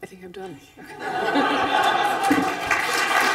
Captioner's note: laughter; applause